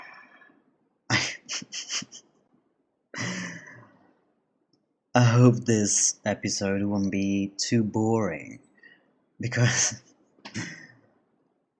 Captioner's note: long sigh